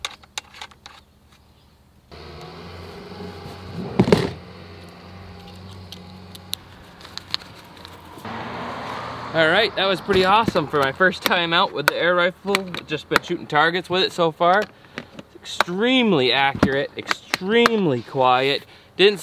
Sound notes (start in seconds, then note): 0.1 clinking metal; 2.1 heavy motor revving; 8.4 car engine roaring